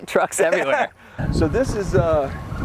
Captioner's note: laughter